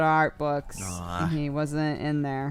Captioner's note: cry